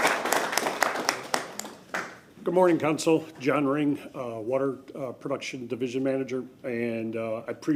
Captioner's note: applause